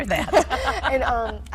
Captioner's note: laughing